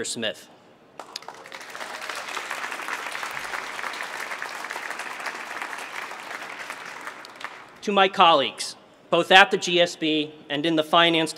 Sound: applause

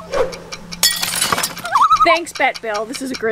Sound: loon call

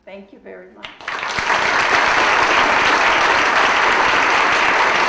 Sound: audience applauding

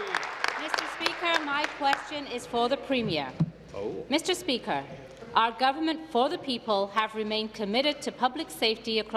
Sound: applause

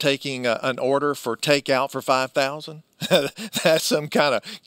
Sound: laughs

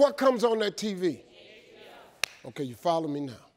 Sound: crowd

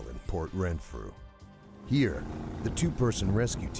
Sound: voiceover

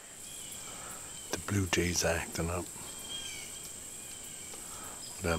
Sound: chirping

